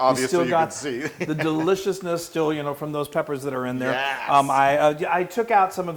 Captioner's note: laugh